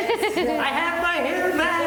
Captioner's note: laughing